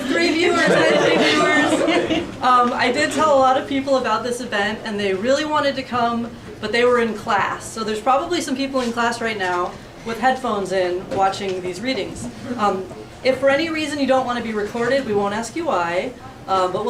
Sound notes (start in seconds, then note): 2.9 laughing